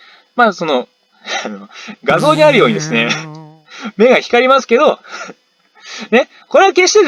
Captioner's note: laughs